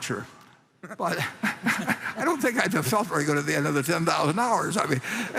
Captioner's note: laughs